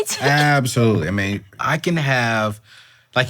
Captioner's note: chuckles